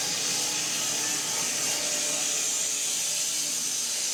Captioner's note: mill whirring